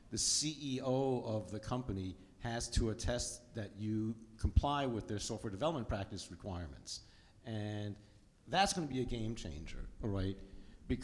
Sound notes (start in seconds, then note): none